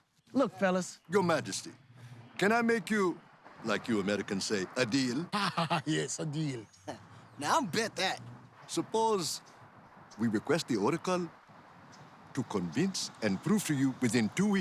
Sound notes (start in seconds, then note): 5.0 laughs